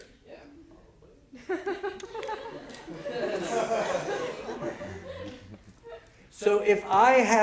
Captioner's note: laughter